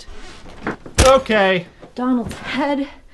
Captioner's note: plastic clunk